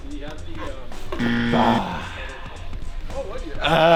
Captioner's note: moaning; bell buzzing